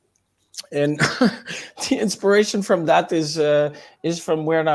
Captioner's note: laughs